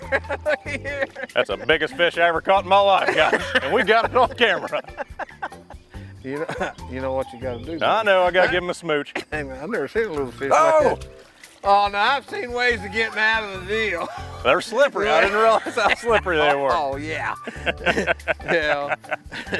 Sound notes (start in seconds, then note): 5.1 laughter; 17.4 laughter